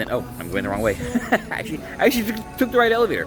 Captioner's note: laughs